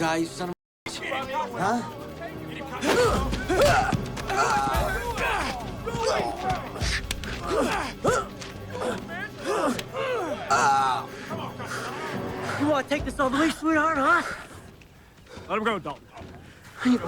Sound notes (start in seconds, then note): 2.8 Henderson and Dalton grunting; 10.8 Henderson groans